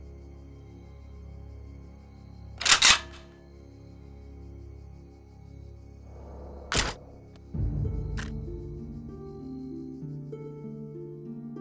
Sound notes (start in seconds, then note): 2.6 gun snaps; 6.7 gun fires; 6.8 body thuds; 7.5 brooding music